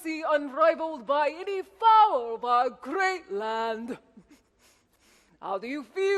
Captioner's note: sniffs